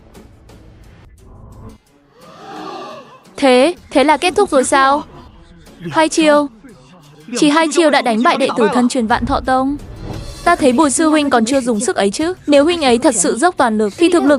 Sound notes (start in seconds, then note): 4.0 groaning